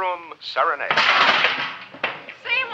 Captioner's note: pot clanging